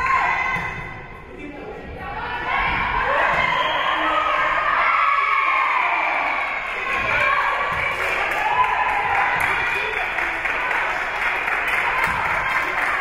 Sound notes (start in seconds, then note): 3.4 whistle being blown; 5.3 spectators cheering and applauding